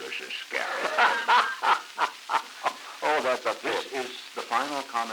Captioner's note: Truman, laughing